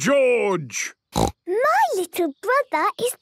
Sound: snorts

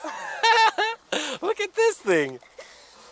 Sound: laughing

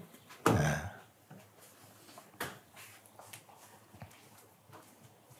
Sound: silence

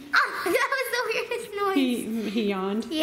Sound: laughing

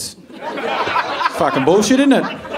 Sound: audience laughing

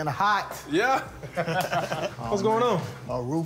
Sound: both laugh

